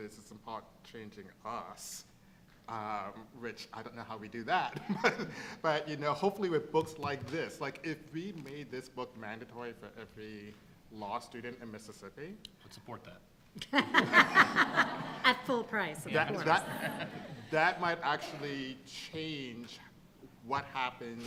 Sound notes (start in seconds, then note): 4.5 laughs; 13.6 laughter; 13.6 laughing